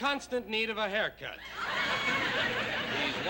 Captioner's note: laughter